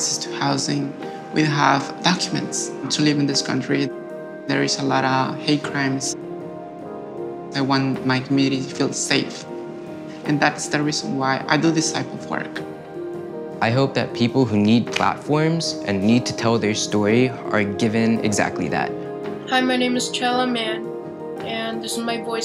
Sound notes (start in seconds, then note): 18.1 higher voice